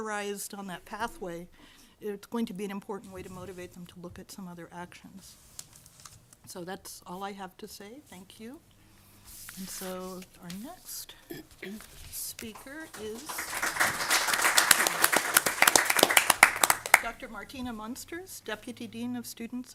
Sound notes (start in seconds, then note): 12.5 audience applause